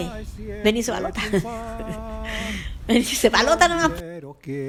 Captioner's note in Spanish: ríe